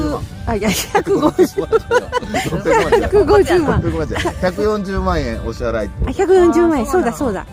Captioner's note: guffawed